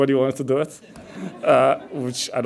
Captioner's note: audience laughs